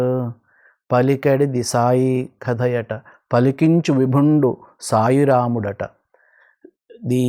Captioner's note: recites Telugu poem